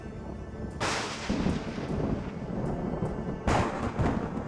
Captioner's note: thunderclap